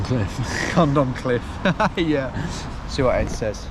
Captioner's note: laughs